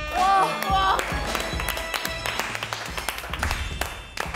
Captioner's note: standing applause